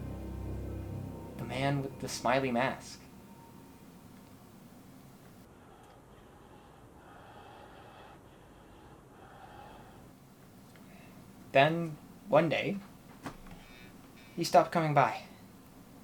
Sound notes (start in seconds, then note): 5.4 breathing